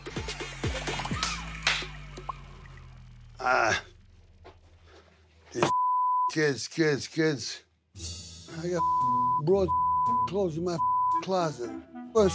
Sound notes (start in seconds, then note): 1.0 clapping; 4.9 beep